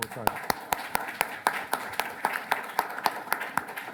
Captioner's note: applause